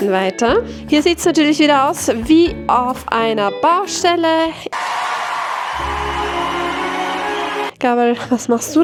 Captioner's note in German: jubel